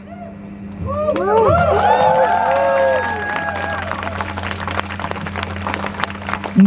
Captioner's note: crowd cheers